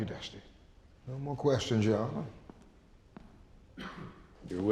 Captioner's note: footsteps